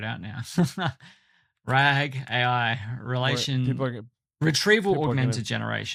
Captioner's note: chuckles